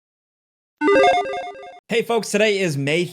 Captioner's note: playful warble